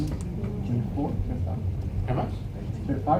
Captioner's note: audience murmuring